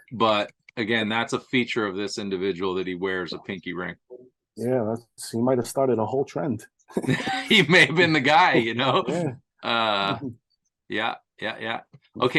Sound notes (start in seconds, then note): 7.0 laughing